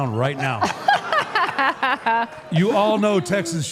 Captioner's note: laughs